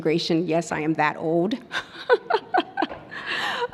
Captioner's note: laughs